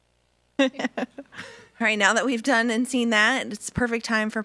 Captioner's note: laughs